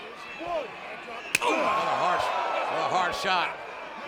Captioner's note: blow thudding